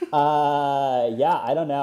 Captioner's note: laughs